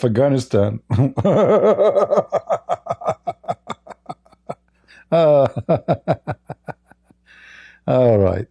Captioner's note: Ketawa